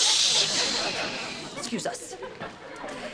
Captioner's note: everyone shushing them